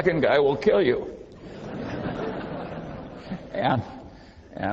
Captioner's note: laughing